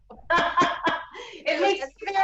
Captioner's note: laughs